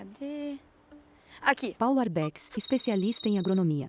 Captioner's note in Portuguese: Toque de celular